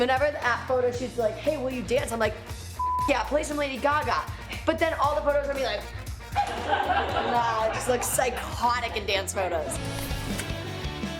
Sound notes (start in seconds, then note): 6.1 crew laughs; 9.6 laughing